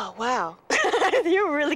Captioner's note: laughs